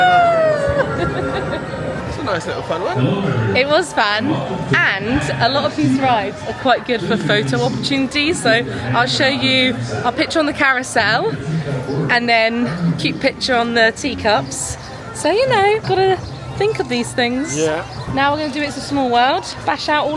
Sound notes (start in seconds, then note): 0.0 laughing; 3.9 announcement booming